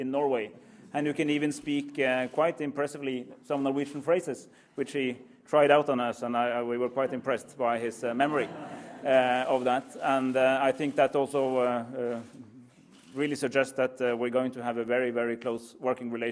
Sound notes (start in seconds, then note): 8.3 laughter